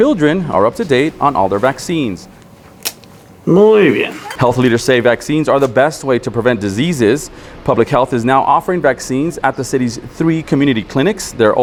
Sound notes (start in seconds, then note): 3.4 medical professional speaking foreign language